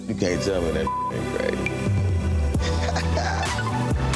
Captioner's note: beep; chuckling